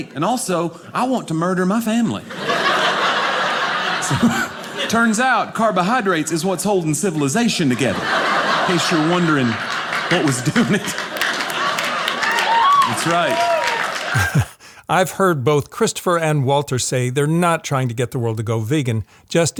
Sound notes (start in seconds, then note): 2.2 audience laughing; 10.9 audience clamoring